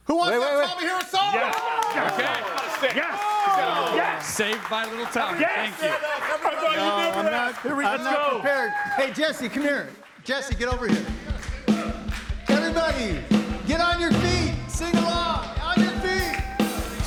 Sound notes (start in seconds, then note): 1.7 audience cheers; 16.8 upbeat rock music